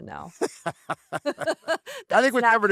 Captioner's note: laughter